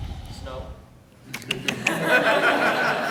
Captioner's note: laughter